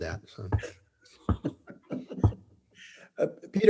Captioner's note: all laughing